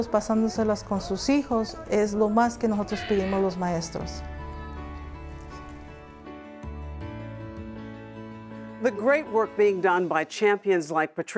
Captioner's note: spanish